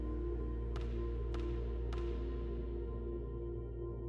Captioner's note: dribbling ball